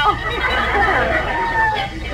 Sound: audience laughs

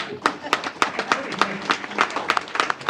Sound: applause

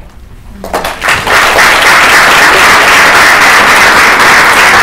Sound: applause

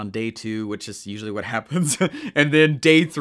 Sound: laughing

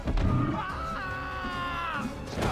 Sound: screams

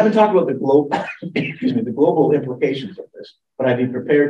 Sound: coughs

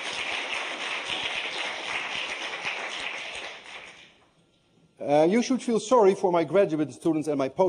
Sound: applause

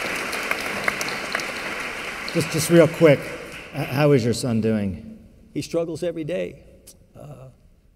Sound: applause

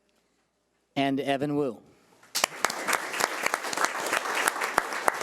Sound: audience applauding

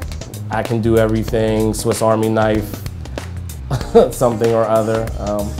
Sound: chuckles

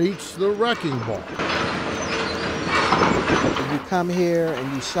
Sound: machinery clanking

